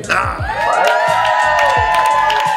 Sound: cheering; applause

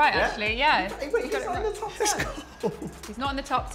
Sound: chuckle

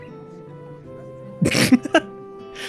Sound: laughs

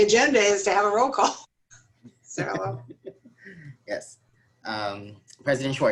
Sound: laughter

